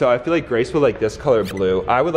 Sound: electronic beeping

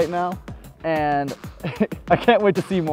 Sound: laughs

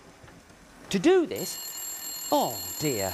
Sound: telephone rings

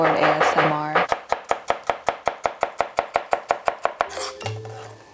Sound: knife cutting

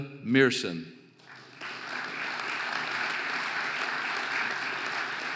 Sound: audience applauding

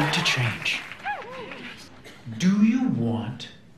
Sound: cheering

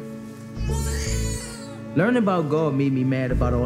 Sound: baby crying

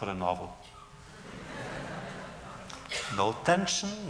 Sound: laughter

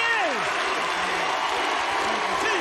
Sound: audience cheering

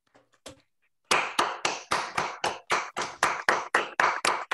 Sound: applause

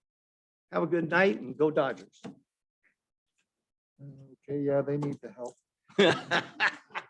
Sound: laughter

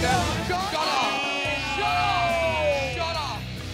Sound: crowd talking over each other

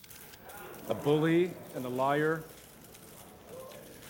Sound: reporters gasp, clamor

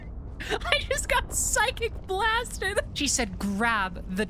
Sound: laughing

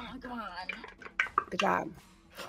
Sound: dice clatter

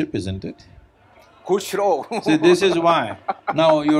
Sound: laughs

